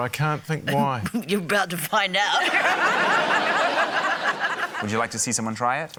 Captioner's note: chuckles; laughter